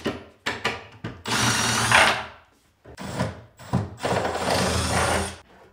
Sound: removing screws with drill

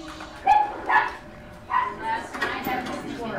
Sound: distant conversations, barking

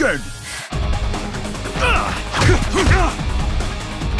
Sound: both grunt

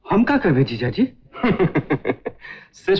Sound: laughs

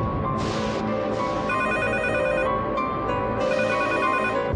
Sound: thunder sounds; telephone ringing

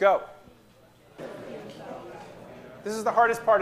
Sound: people chattering

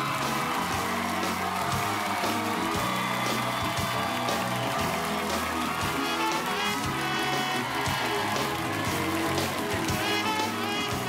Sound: cheers and applause

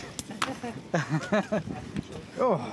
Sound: laughter

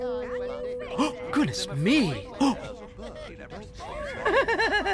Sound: gasp!

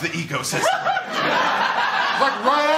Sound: laughter

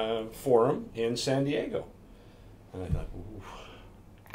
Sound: exhales

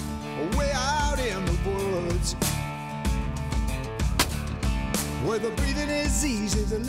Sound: gunshot

